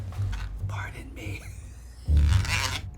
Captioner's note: food mill cranking; whispers